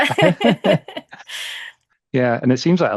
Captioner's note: both laughing